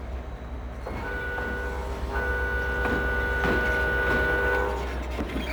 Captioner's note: train whistle blaring